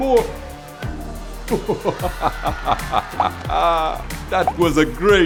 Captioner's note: laughter